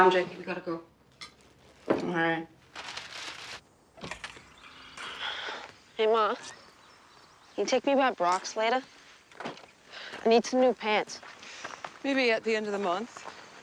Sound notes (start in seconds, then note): 3.7 birdsong